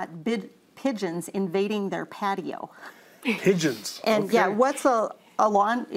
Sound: laughs

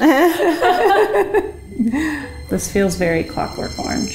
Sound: laughs

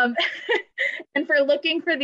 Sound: laughter

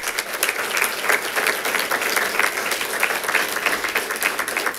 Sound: congregation claps

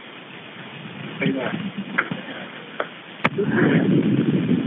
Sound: officers chattering

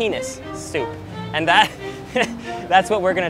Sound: laughs

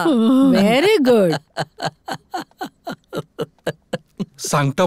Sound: laughs

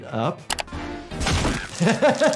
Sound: mouse clicking

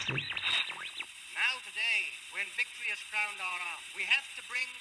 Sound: voiceover

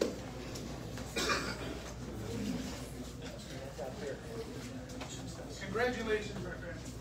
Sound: indistinct chatter

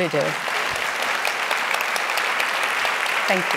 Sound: audience applauding

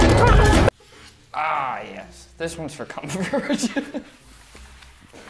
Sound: chuckles

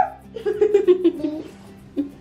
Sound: laughs

